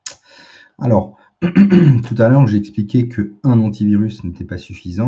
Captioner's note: raclement de gorge